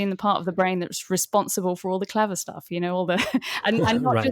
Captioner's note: chuckles